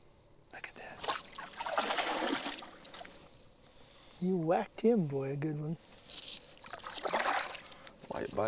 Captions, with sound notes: [Big Splash] you whacked him good [Splash]